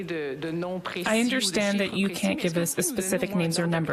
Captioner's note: speaking French